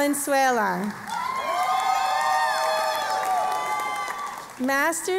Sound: cheering and Applause

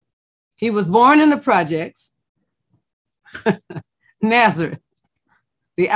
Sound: laughs

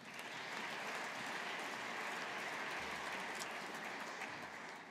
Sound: audience applauding

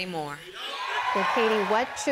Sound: cheering; applause

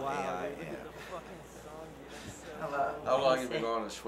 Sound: chuckling

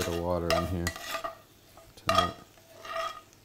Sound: scraping

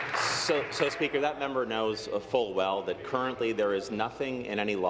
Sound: applause

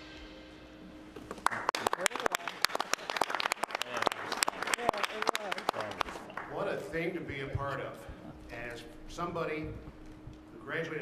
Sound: applause

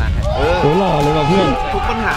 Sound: pat

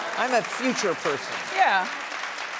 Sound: audience clapping

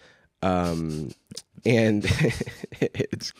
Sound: laughs

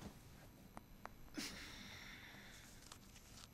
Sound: crack; kasia grunts; scratching

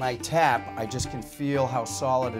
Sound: hammering

